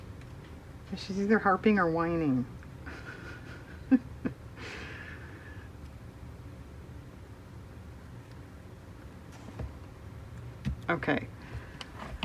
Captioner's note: laughs